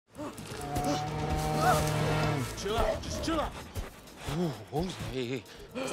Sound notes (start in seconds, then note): 0.1 grunts, gasps; 1.6 whimpering